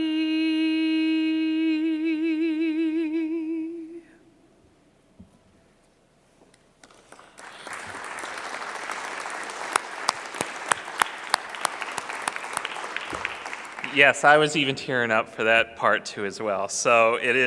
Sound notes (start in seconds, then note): 6.8 clapping